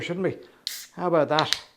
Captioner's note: can opens and fizzes